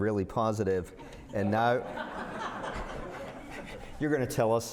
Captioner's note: laughter